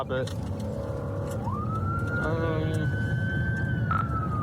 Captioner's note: siren wailing